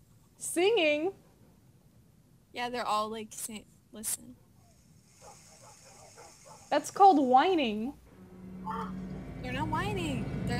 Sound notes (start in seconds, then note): 5.1 minecraft dogs barking; 8.1 suspenseful music begins